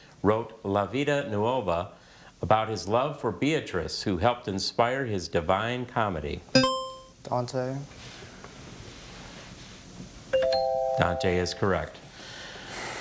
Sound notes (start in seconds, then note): 6.6 buzzer chimes; 10.4 bell chimes